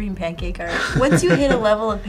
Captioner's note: laughs